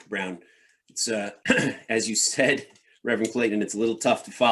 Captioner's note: clears throat